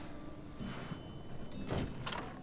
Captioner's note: door opens